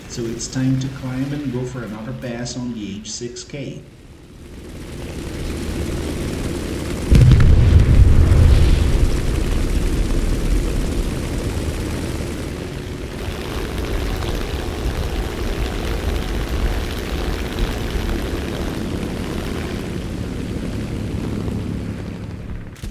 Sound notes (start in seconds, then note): 4.3 aircraft Engines ,Gunfire, Flying Sounds